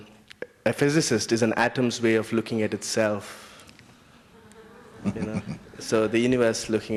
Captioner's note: Mooji laughs